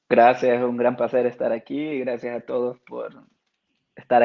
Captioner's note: speaking Spanish